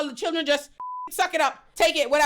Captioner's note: beep